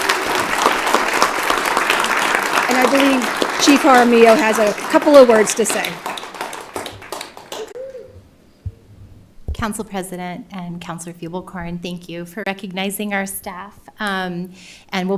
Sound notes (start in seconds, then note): 4.1 applause